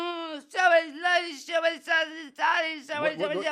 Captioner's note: patient screams